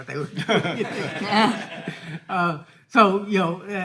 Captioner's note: all laughing